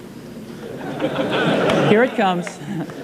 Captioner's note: audience laughing